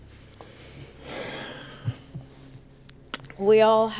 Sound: sighs

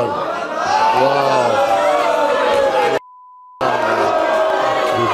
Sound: audience booing

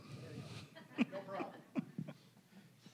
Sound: all chuckling

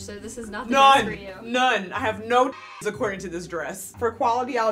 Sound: beep

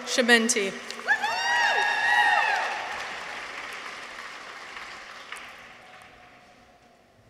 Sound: audience applauds; people cheer

